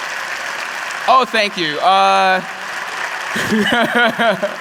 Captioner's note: applause